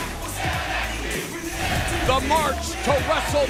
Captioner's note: fans chanting